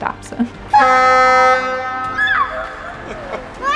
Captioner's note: horn honks; squeals